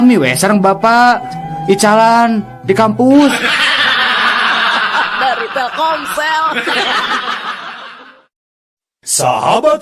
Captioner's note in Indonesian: tertawa